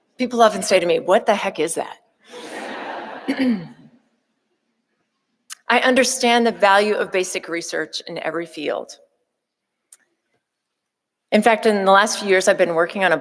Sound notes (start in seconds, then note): 2.3 audience laughing